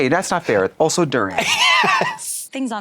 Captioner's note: Katya laughs